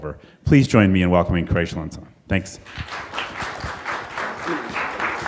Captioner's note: applause